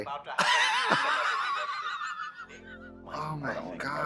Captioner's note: Katya laughing